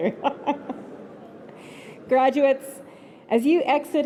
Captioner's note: laughter